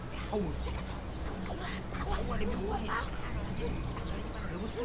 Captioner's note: people speaking Vietnamese can be heard behind the door